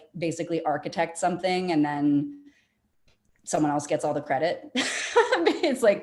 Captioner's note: laughing